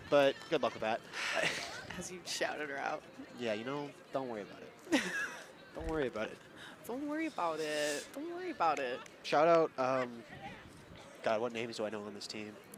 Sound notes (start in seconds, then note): 4.9 laughs